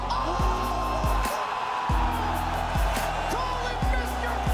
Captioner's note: cheers